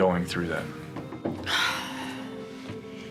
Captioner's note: sighs